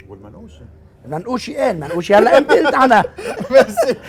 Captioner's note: laughing